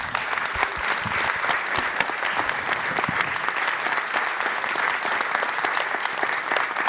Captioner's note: applause